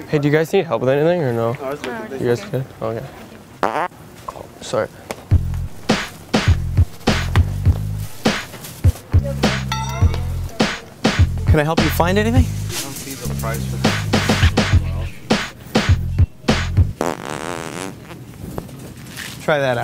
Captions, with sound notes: - Hey do you guys need help with anything, or no? - No, we're okay. - You guys good. Okay. (fart noise) Sorry. (upbeat music) - Can I help you find anything? (fart noise)